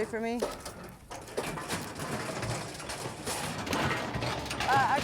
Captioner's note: gate rattling